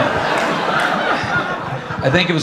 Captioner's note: audience laughing